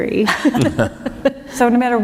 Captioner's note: laughter